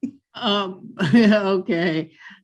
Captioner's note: chuckles